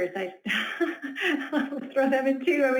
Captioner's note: laughs